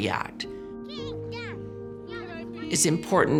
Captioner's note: children chattering